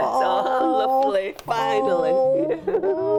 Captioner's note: laughs